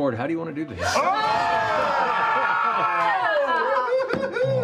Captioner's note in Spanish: vítores